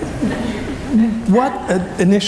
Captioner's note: laughing